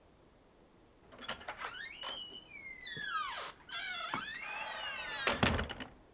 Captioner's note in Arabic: صرير الباب مفتوحًا ومغلقًا